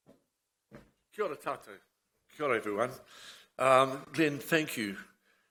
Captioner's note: speaks in foreign language